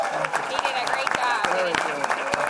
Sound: applause

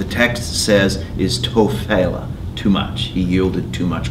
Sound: speaking in foreign language

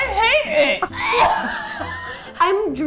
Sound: laughing; choking

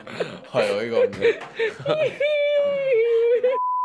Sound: makes baby noises

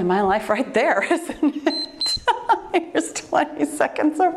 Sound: laughs; timer beeps

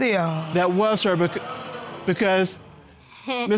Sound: audience exclaims

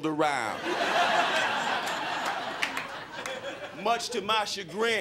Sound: crowd laughing

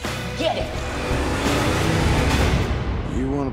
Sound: engine revving

